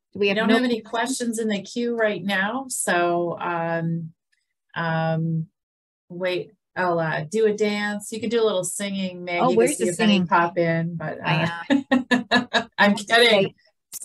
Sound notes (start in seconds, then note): 11.3 laughs